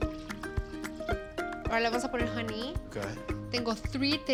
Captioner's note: speaks Spanish